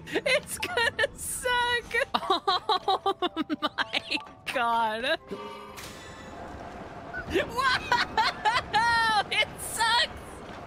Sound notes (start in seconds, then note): 2.0 laughing